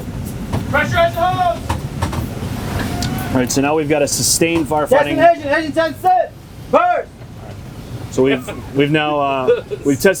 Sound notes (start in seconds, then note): 4.8 man yelling